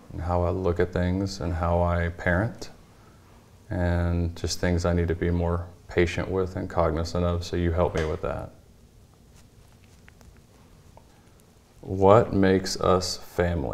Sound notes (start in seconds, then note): none